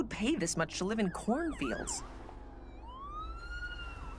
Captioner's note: siren wailing